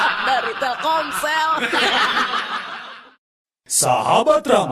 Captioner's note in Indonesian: tertawa